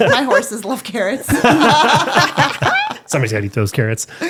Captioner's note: all laughing